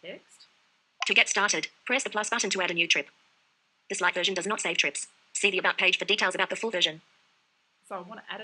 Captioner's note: VoiceOver announcing content